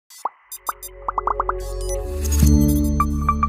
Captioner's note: electronics beeping; ethereal music